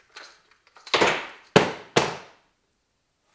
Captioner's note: sounds of destruction